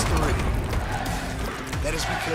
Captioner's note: fans chanting